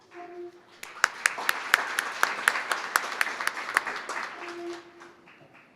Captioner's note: applause